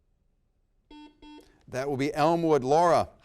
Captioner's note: buzzer rings